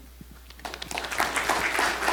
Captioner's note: audience applauding